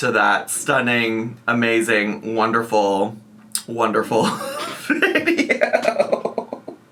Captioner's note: laughing